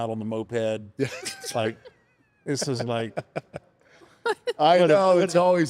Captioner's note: laughs